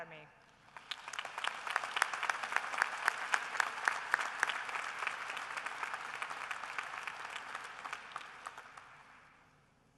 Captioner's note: applause